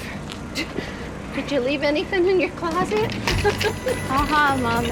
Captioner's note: laughs